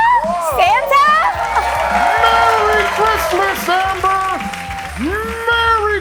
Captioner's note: applause